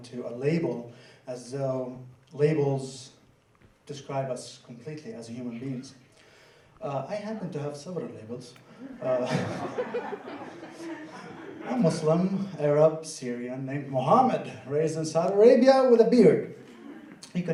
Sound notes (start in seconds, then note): 8.8 laughter